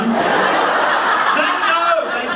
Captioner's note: audience laughing